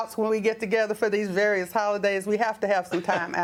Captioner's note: laughter